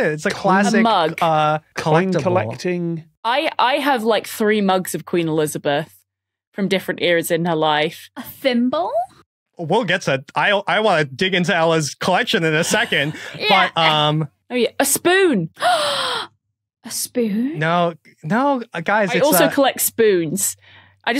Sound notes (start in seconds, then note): 15.6 gasps